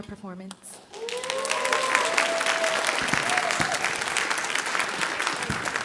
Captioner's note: audience cheering and applauding